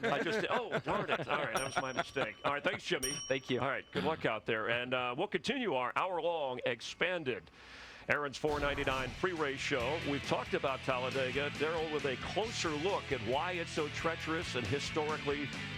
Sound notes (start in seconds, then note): 3.6 laughter